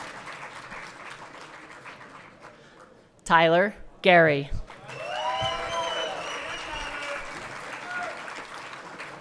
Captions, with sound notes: Tyler Gerry. (everyone cheering)